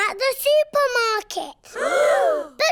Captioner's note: all gasp